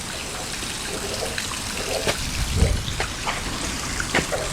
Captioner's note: frog Noises